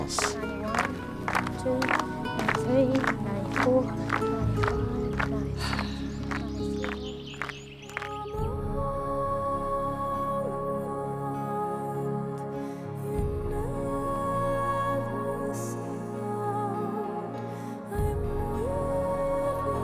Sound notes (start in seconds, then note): 5.5 sighing